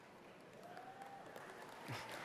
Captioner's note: applause